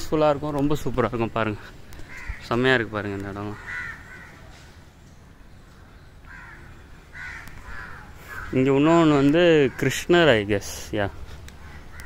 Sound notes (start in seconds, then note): 3.3 you can hear birds sound in this audio too